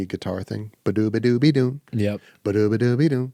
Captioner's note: imitates guitar